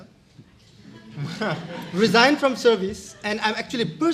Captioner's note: laughter